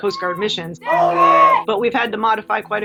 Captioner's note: instructor yells